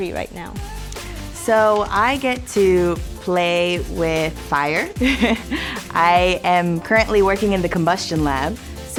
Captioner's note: laughs